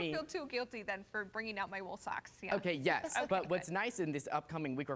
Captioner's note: laughter